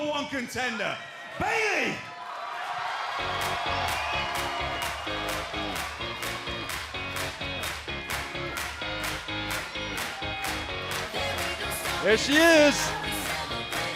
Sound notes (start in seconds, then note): 4.7 cheers and applause